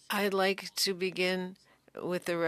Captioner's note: speaking French